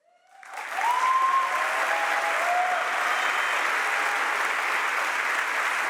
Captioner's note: audience applauds and cheers